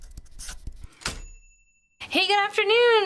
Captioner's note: pencil scratching; typewriter bell dings